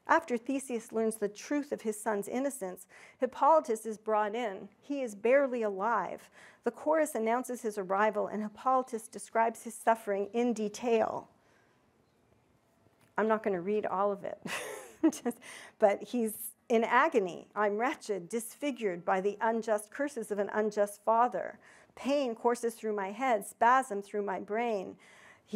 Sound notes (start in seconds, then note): 14.4 chuckles